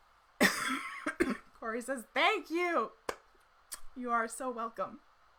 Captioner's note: coughs